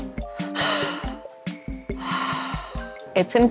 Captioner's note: Blueberry breaths deeply